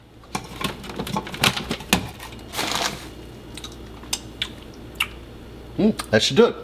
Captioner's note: smacks lips